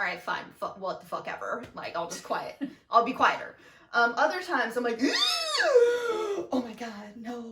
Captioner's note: gasps